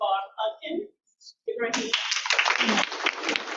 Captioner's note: audience clapping